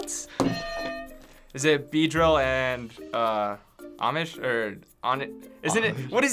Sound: stammering

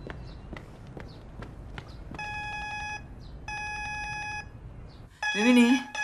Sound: footstep sound; doorbell constantly rings

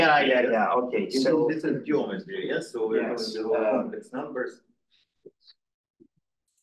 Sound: audio distorting

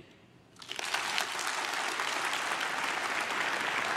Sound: crowd claps

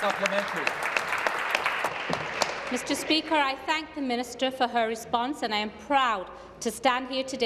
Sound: applause

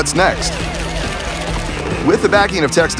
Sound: camera flashing

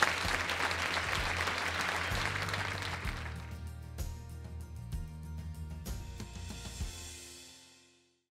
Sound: applause/Music

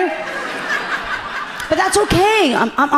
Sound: audience laughing gently

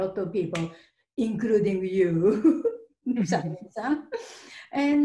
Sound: both laughing

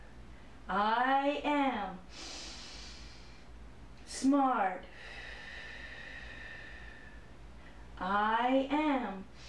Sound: breathe in; breathe in

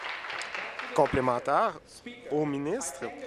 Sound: applause

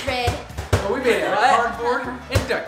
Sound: ball bouncing

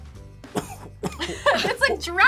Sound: coughs; laughs

